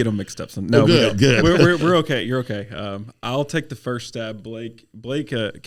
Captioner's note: laughing